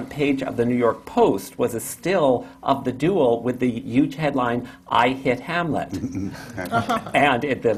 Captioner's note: laughter